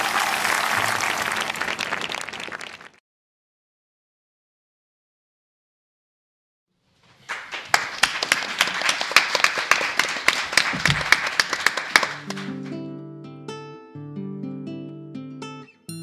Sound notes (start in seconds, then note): 7.2 audience applauding; 12.2 soft music